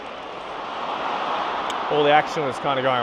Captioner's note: crowd cheering